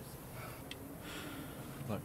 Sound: sigh

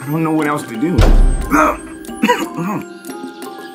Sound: choking

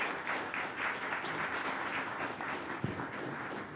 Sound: applause

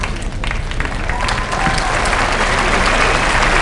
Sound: applause

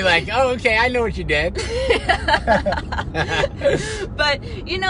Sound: both laughing

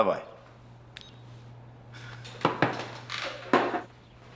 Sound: phone beeps

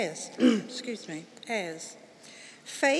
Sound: clears throat

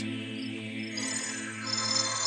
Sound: eerie music; crickets chirping; ghost tinkling; eerie music

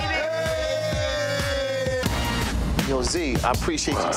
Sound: all cheering

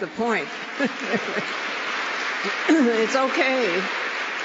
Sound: applause

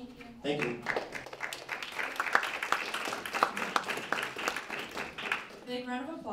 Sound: applause

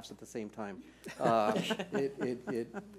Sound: laughter

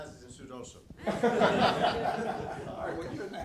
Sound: laughing

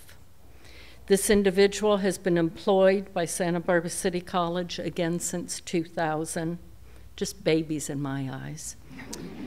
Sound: laughter

